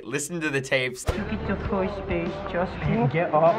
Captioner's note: baby voice